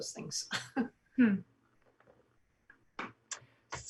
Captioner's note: soft giggles